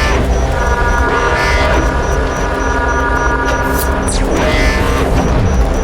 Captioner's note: fast-paced alarm blaring